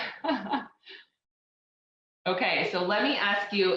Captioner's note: laughs